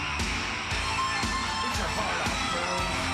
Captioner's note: audience cheering